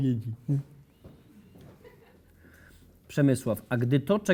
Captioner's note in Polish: śmiech